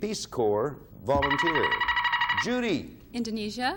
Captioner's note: buzzer beeping